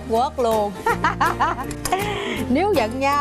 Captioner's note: laughing